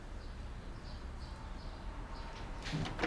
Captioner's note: birds chirping